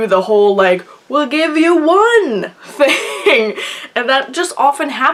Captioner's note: laughs